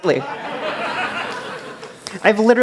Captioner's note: laughter